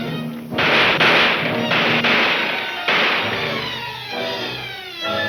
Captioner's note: guns firing aggressively